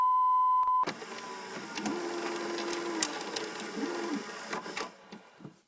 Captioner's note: vhs tape ejects from vcr